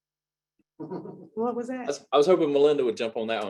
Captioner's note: chuckles